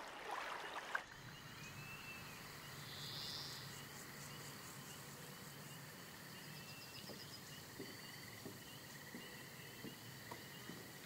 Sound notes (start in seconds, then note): 1.0 bugs chirping; 1.4 birds chirping